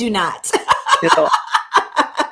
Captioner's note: laughter